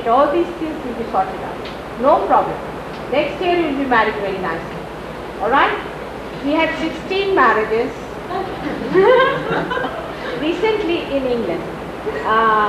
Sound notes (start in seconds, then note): 8.3 laughter, Shri Mataji laughs